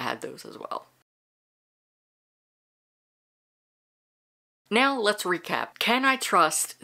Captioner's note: no audio